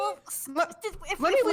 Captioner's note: stumbling over their words moment